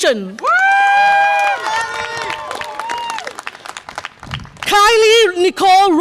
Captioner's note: audience applause and cheer